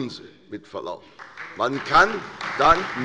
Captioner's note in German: Lebhafter Beifall bei der CDU, der SPD, dem BÜNDNIS 90/DIE GRÜNEN und der LINKEN